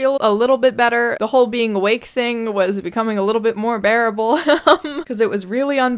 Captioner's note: laughs